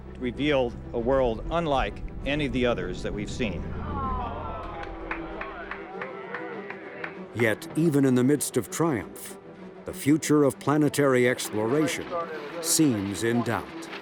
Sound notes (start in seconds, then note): 3.8 people exclaiming; 4.2 people applauding